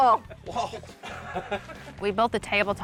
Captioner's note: laughs